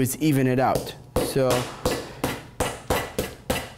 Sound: table slams

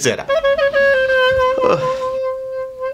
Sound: sighs

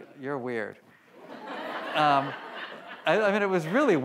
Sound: audience laughs

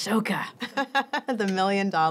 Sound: laughter

